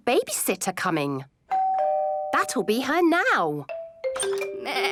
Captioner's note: doorbell rings